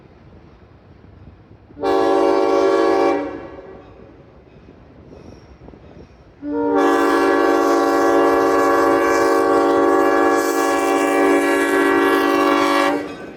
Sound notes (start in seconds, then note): 1.8 medium horn